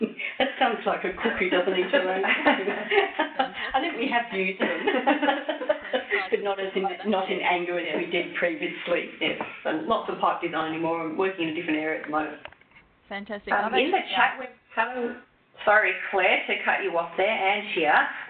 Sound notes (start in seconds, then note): 5.4 laughs